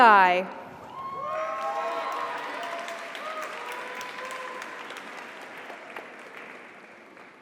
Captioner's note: audience cheers; audience applauds